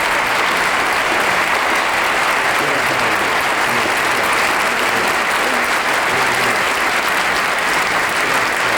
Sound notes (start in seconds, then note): 2.5 guests chattering